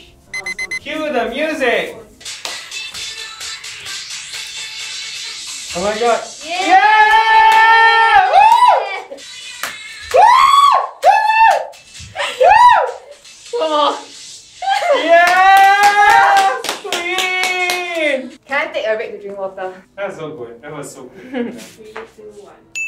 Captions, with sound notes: Cue the music. [Cheering] Yas. Kween. - Can I take a break to drink water? - That was so good.